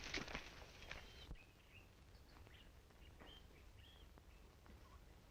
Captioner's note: birds chirping